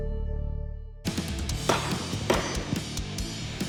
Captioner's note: chopping